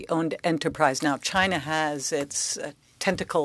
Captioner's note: speaking French